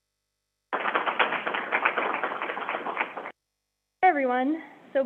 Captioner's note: crowd applauding